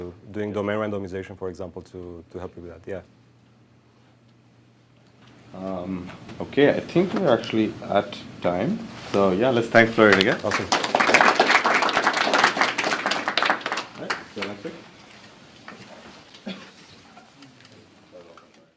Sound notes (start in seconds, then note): 11.9 applause